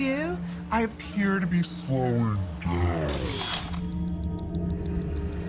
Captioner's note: audio slows